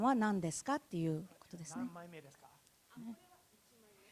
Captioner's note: speaking japanese